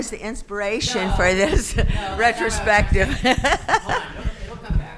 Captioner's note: chuckles